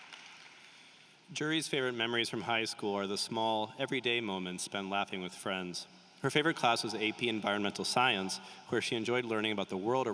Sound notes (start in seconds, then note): 0.0 applause